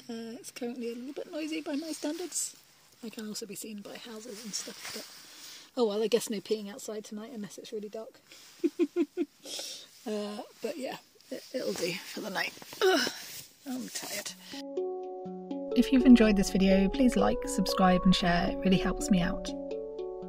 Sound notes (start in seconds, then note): 8.6 giggles; 12.8 groans